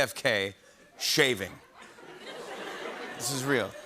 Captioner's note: laughter